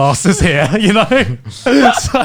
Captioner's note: laughing